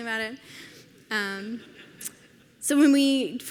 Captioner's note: audience laughs